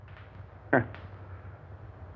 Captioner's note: guffaw